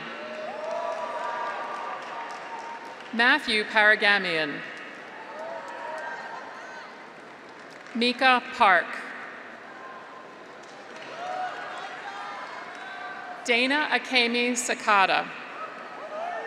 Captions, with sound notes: (graduates cheer) (audience applauds) Matthew Paragamian. (graduates cheer) (audience applauds) Micah Park. (graduates cheer) (audience applauds) Dayna Akemi Sakata.